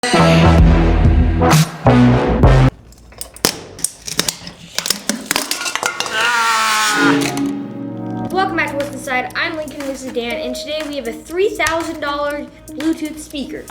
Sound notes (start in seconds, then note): 0.2 electronic music; 1.0 metal crunching